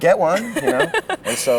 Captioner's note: laughs